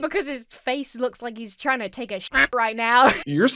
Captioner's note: duck quacks; laughs